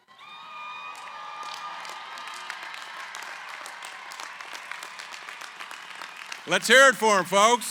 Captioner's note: cheering, applause